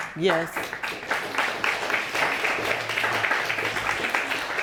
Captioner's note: audience applauding